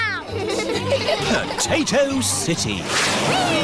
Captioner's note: all giggling